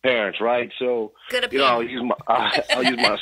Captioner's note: laughs